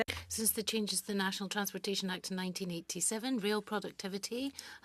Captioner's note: speaking French